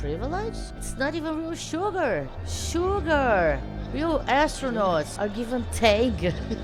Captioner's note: laughs